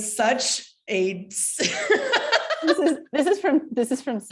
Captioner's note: laughter